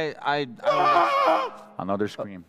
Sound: screams

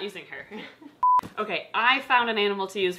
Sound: laughs; tone beeping

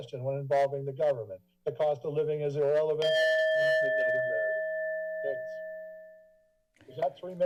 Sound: bell sound

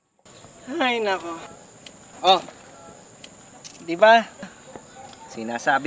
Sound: sigh of relief

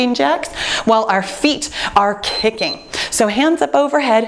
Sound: timer beeps

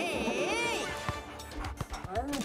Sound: panting

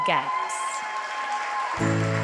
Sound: audience applauds; audience cheering; bright inspirational music

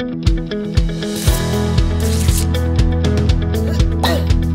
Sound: ripping paper; groans

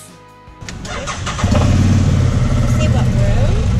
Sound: engine starts

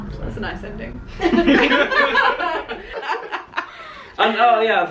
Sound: laughter

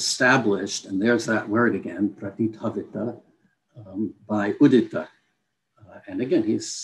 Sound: non-english speech

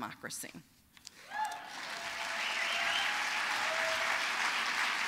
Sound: applause

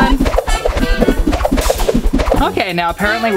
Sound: whooshing

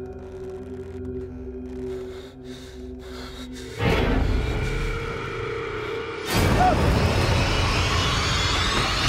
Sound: creaking

